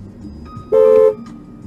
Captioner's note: dashcam driver honks